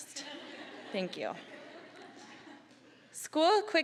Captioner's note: audience laughing